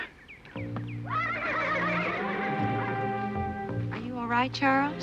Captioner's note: horse neighing